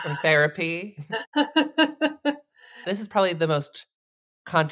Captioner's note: laughs